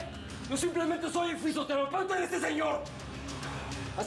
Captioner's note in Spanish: none